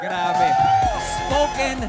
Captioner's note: applause